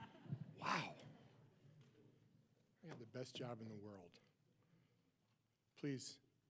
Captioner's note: laughter